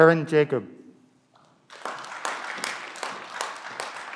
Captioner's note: clapping